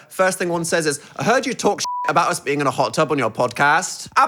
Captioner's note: beep